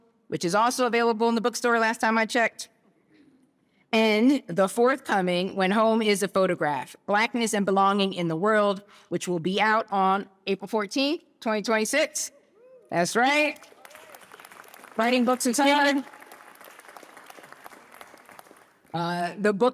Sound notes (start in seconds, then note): 13.6 cheering; 16.3 applause